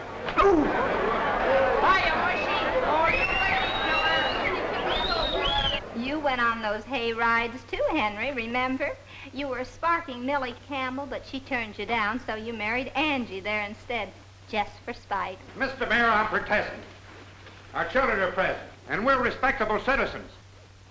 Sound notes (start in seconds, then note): 0.1 group chattering; 0.4 Joe groans; 2.9 group whistling